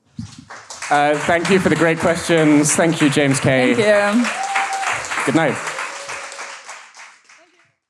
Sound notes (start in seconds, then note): 0.2 audience applauds; 4.4 audience cheers